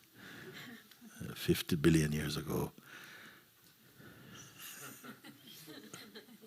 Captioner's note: laughter; laughter